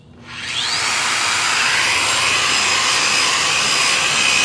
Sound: grinder whirring

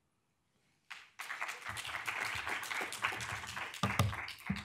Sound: audience applauding

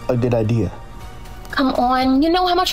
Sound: quietly

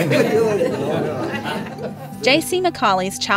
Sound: laughter

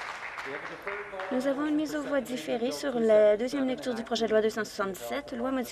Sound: some Applause

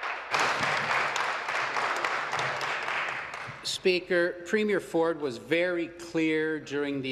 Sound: applause

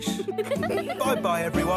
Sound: giggling

